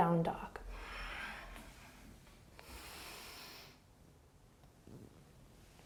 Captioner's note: deep breathing